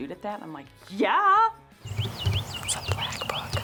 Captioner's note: birds chirping